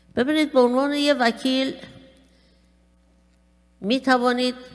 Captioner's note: speaking persian